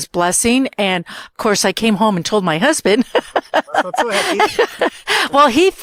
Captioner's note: laughter